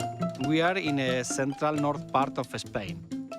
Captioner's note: light playful music; with Spanish accent